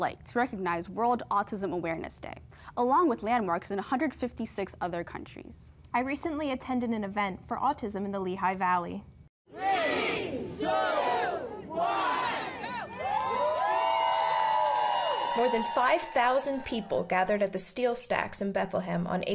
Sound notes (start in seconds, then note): 9.5 crowd; 13.0 cheering